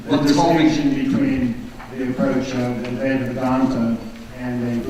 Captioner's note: voiceover